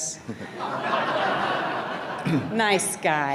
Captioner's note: audience laughs